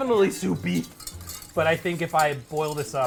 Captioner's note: whisk rustles